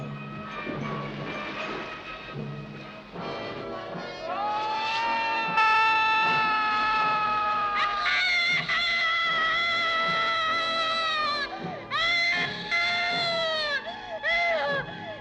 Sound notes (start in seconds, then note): 3.3 suspenseful music; 4.3 Christian screaming; 7.9 Brigitte screaming